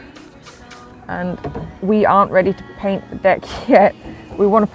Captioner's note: laughs